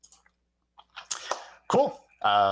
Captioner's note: hands clapping